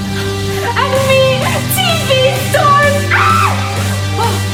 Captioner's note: screams